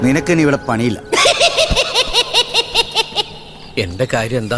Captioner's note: Cycle laughs